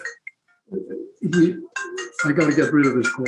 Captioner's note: cell phone rings